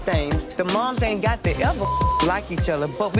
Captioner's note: beep